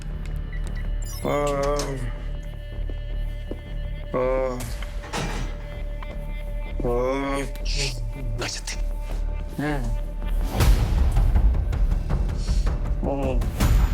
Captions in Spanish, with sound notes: [Quejidos] - Shhh, cállate. [Quejidos]